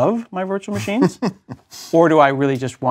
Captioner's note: laugh